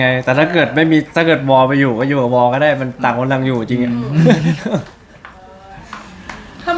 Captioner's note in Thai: เสียงหัวเราะ